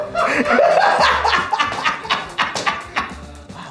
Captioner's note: all laugh